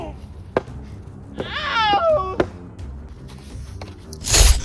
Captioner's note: priest groaning; pained cry; slicing sound